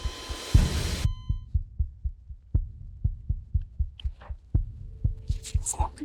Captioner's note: dramatic music; heartbeat pulsing